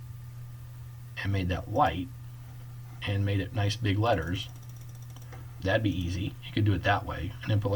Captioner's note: clicking